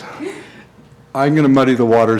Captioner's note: laughter